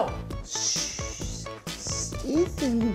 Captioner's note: bad japanese accent